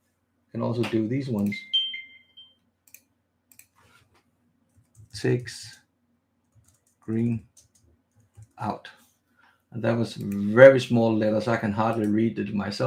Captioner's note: typing